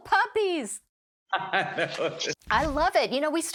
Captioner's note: laughing